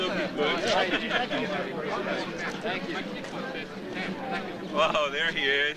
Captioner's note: overlapping chatter